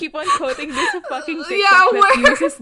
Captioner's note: laughing; laughs